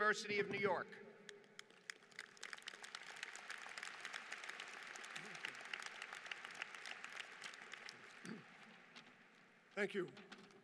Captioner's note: applause